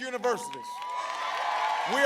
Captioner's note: applause